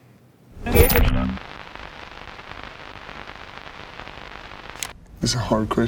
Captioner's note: static crackling